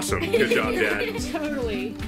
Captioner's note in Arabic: يضحك